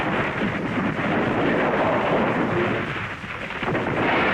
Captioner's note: breaking ice